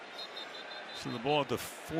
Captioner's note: whistle blows